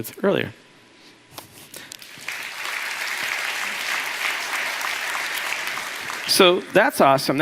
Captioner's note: applause